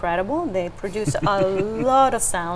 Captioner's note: chuckling